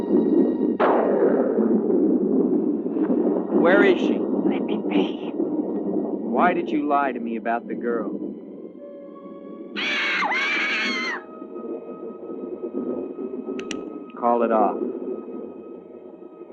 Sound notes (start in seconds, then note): 9.7 bird screeching; 13.6 gun cocking